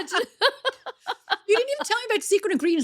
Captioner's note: laughing